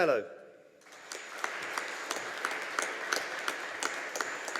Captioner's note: audience applauding